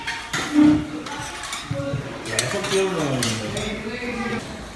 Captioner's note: chair squeaking